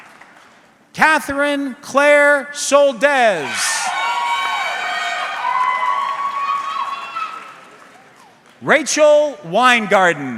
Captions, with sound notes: Catherine Claire Soldes. (audience cheering) Rachel Winegarden.